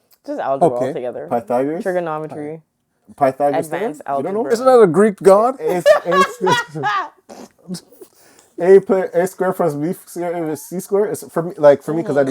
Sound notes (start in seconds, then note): 5.6 laughing